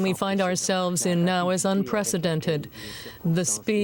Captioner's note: speaking French